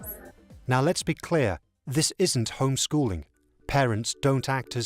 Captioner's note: voiceover